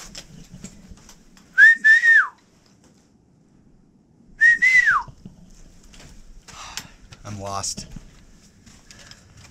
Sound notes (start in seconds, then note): 1.5 whistle; 4.4 nervous whistle